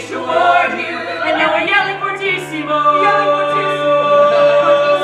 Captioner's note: yelling fortissimo